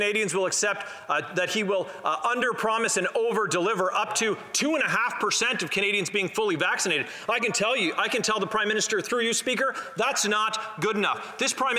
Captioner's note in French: voix de l'interprète